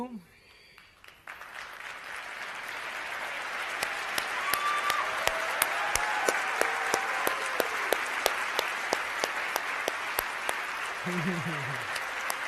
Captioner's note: applause